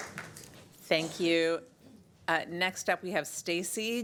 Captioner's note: applause